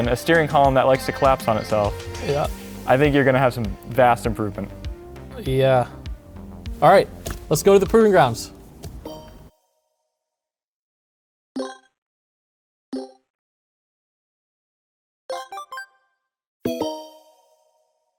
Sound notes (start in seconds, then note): 9.5 electronic chiming